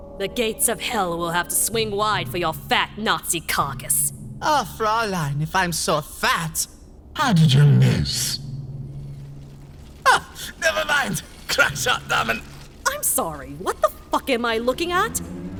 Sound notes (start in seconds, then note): 7.1 artificial voice; 9.9 strained